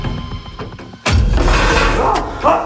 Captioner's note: chair moves; Rishi screams